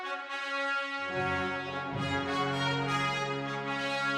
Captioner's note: imitating Philippine Hero, Andres Bonifacio